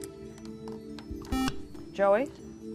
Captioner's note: buzzer